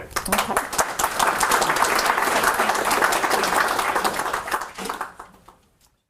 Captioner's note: audience applauding